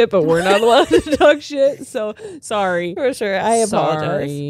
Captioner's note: all laughing